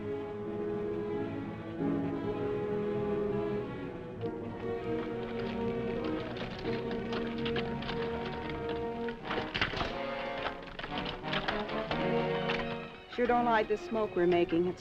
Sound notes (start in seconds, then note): 5.4 horse hooves clopping; 9.7 dramatic music